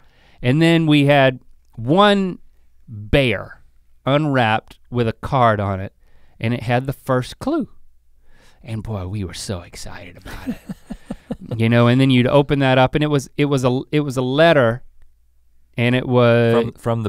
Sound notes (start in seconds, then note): 10.2 laughs